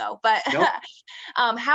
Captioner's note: chuckles